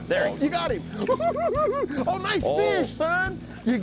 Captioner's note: cackling